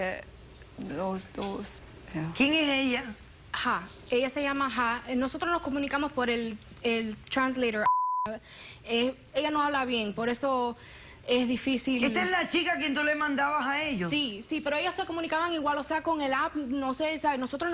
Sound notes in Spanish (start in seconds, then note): 7.8 Bip